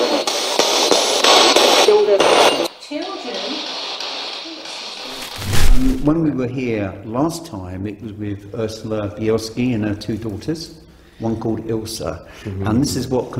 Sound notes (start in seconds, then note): 5.0 screen crackling